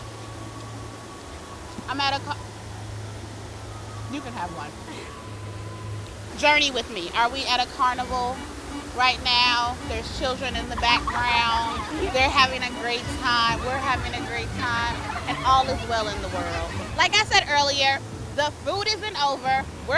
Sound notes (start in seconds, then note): 9.8 children laugh